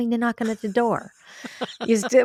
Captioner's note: laughs